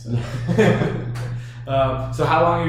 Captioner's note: laughs